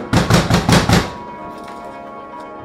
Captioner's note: banging